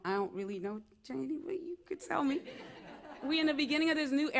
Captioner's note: laughter